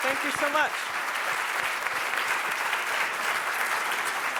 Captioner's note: applause